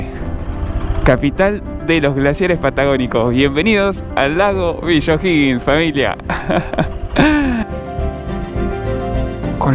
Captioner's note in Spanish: risas